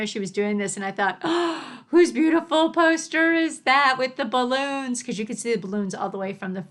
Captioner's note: gasp